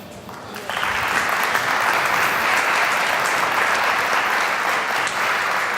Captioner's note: applause